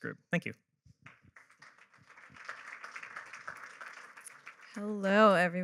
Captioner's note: applause